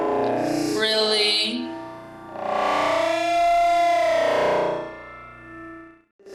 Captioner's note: man moaning loudly, layered